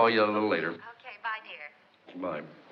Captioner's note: on phone